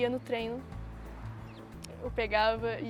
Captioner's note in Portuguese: som de carro ao fundo